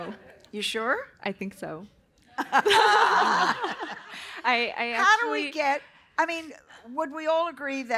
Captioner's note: laughter